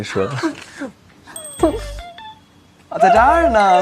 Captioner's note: laughs; laughs